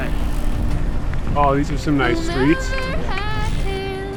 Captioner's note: pat